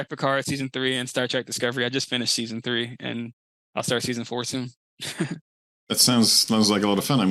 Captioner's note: giggles